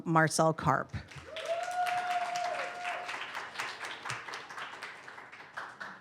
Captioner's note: audience cheers and applause